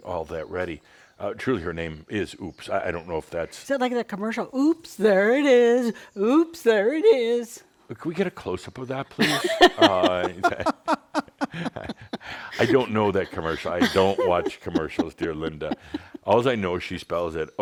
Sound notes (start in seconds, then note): 7.0 in a sing-song voice; 9.2 laughs